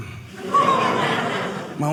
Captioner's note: audience laughing